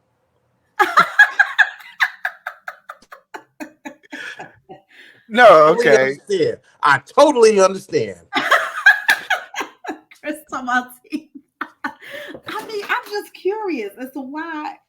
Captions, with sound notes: No, OK. I totally understand. [LAUGHTER] Chris, come on. I mean, I'm just curious as to why--